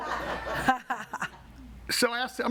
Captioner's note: audience laughing